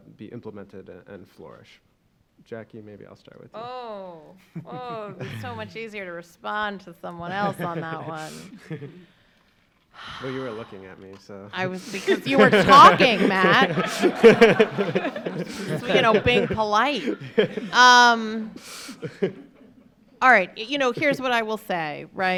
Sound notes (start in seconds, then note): 14.3 laughing